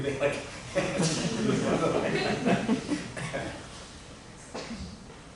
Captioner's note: laughter